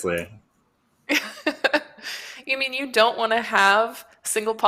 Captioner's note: laughs